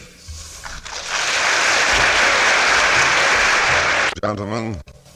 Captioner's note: applause